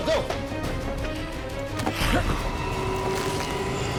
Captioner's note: growling